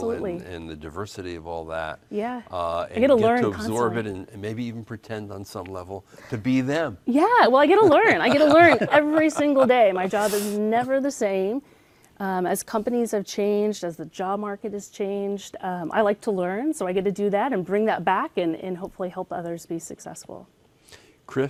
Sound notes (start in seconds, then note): 7.8 laughs